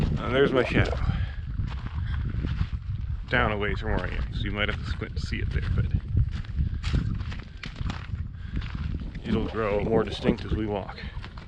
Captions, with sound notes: And there's my shadow. Down a ways from where I am, so you might have to squint to see it there, but (footsteps thumping) it'll grow more distinct as we walk.